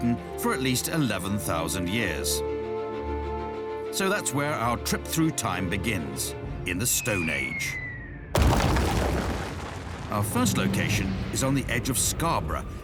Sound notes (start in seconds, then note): 8.3 crash